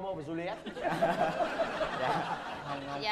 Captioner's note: laughing